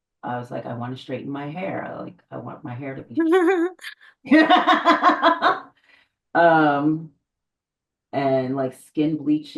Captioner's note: both laugh